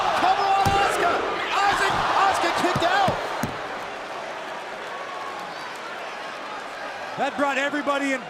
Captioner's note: crowd cheering